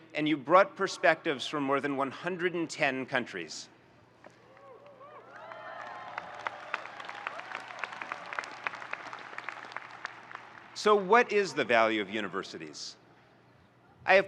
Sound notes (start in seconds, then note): 4.6 audience cheering and applauding